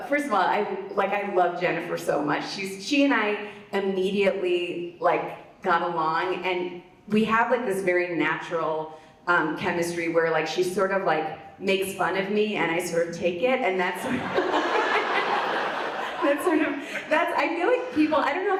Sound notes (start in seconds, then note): 14.0 audience laughs; 14.0 laughs